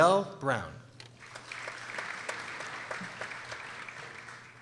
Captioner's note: people applauding